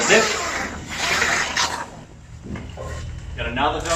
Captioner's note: zipper